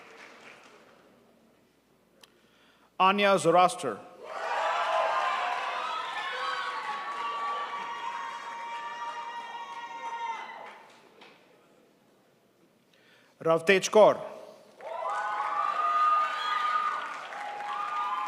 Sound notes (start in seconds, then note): 4.4 crowd applauds; 14.8 crowd applauds